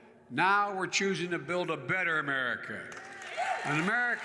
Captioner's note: applause